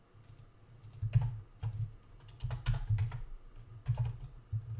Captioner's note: keyboard clacking